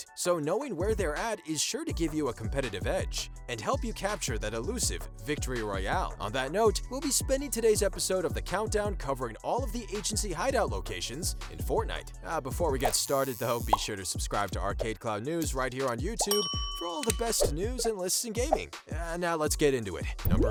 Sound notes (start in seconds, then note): 16.2 bell chiming; 20.2 popping